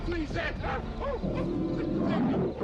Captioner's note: Hezekiah yelping